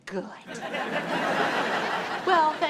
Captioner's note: audience laughs